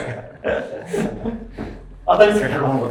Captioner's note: laughing